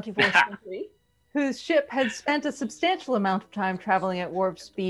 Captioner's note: laughs